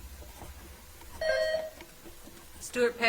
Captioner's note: bell ringing